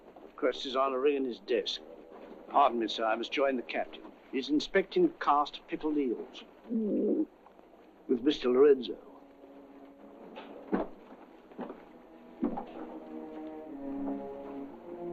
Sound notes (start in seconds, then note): 6.8 gagging; 11.5 sinister orchestral music